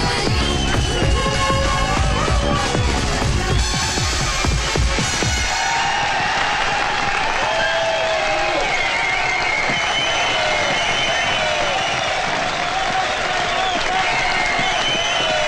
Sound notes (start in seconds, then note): 5.7 all Cheering